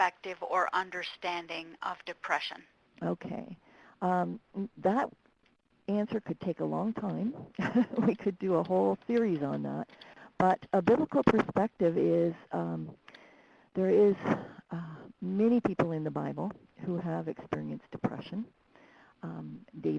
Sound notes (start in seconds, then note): 7.5 laughing